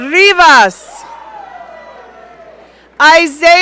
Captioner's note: audience cheering